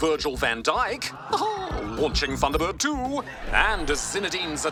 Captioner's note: chuckles